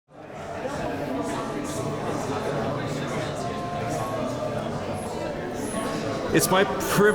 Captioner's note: background chatter